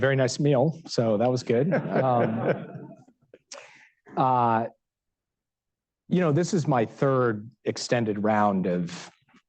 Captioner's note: laughter